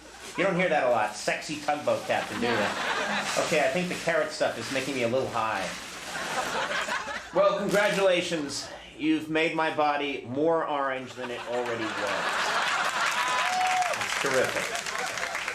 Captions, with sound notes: You don't hear that a lot, sexy tug boat captain do ya? No. Okay I think the carrot stuff is making me a little high. Well, congratulations. You've made my body more orange than it already was. (audience laughing and cheering) It's terrific.